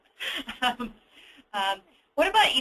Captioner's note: laughs; also laughing